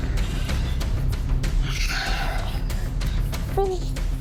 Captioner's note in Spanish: Quejidos y gritos ahogados